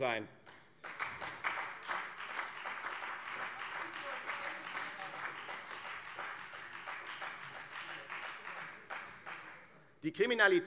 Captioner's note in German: Beifall Freie Demokraten